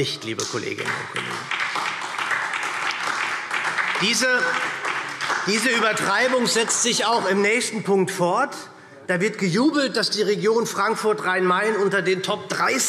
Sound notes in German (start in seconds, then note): 0.2 Beifall SPD